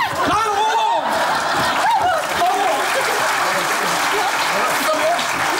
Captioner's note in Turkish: Alkış sesleri